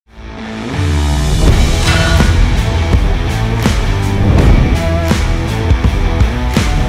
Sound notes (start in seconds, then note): 0.1 heavy rock music; 1.7 metal clanks